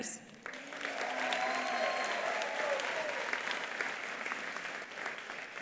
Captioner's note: attendees applauding; attendees cheering